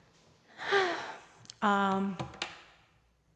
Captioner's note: sigh